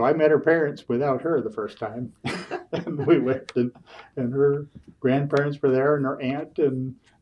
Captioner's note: laughs